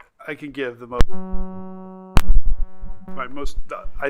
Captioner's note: microphone feedback